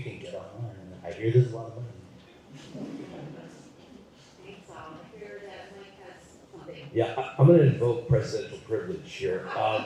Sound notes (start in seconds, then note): 2.6 laughter